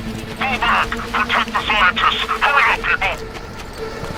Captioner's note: radio